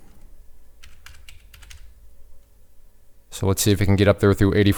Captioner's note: typing